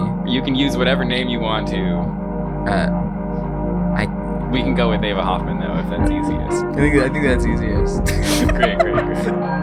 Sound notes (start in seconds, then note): 8.0 laughs